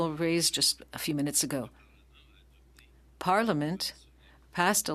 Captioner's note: speaking French